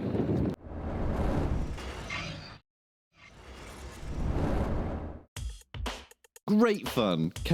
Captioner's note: mechanical noise